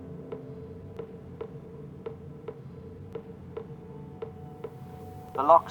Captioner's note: echoes of a tap dripping